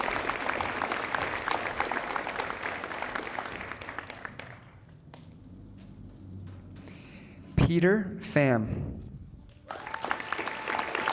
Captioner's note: applause